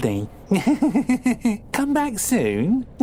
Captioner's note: giggling